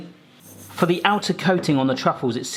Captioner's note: choc0late sprinkles shaking